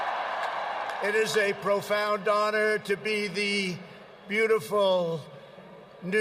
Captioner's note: cheering